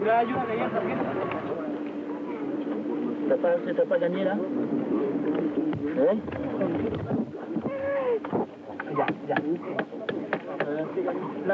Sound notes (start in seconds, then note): 6.7 microphone strikes on the stone; 7.7 baby crying; 9.8 microphone strikes on the stone